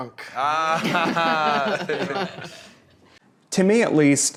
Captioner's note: all laughing